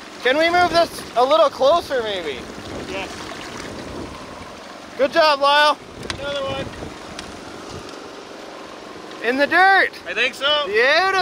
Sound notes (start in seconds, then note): 7.3 machine engine rev